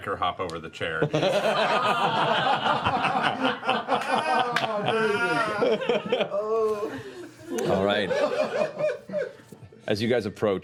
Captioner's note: laughter